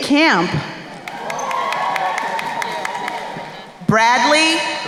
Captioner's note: crowd cheering and applauding